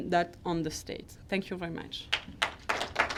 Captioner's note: clapping